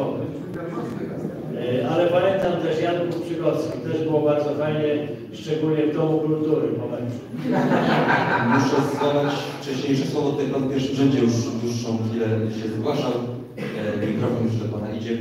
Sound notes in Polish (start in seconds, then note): 7.3 Śmiech z sali